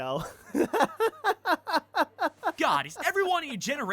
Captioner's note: laughs